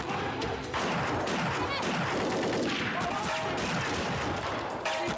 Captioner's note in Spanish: continúa la balacera